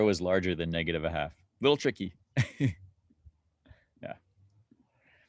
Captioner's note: chuckling